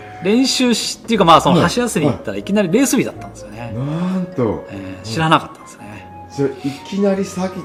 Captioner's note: laughs